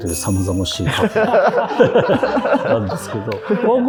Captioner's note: laughing